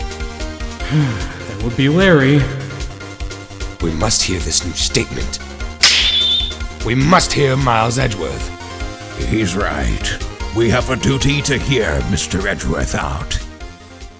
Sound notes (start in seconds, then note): 0.8 sigh; 5.8 snap!